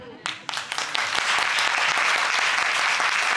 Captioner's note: audience applauding